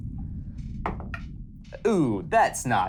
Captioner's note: dice thudding